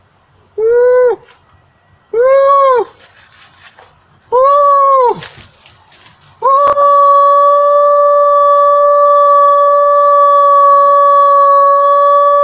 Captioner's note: whooooooooooooooo